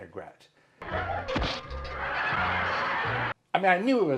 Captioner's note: laughing